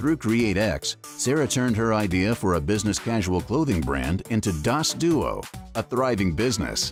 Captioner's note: none